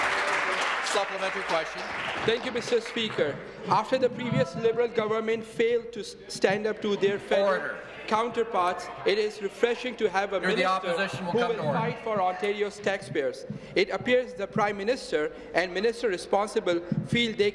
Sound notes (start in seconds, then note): 0.0 applause